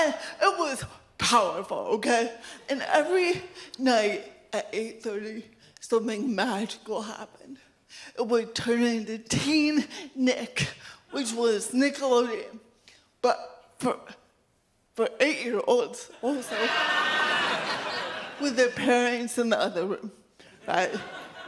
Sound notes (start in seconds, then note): 16.4 audience laughs